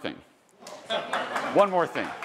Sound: attendees laughing and applauding

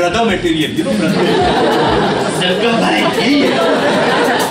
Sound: audience laughs

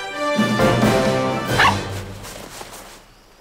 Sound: barking

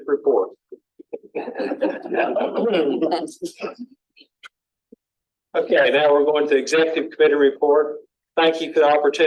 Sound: laughter

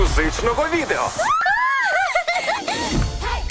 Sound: cheers, laughs

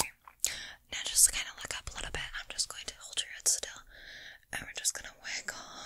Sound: mouth Sounds

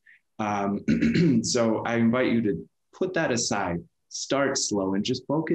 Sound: clears throat

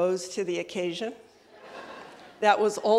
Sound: laughter

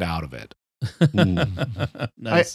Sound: laughter

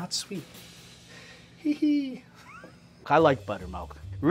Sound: laughs

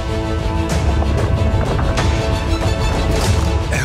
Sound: rumbling

